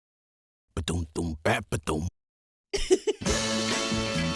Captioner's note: happy giggle; 1960s pop-rock music break